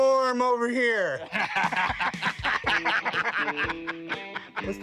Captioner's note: laughter